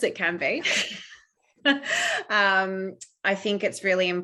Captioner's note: laughs